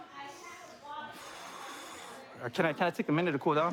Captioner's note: exhales